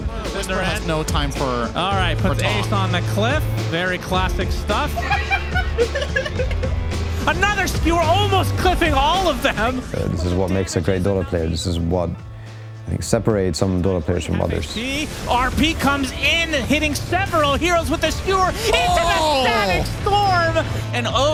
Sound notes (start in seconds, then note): 0.1 previous games highlights, low background music; 4.8 laughter; 7.1 previous games highlights, low background music; 15.1 previous games highlights, low background music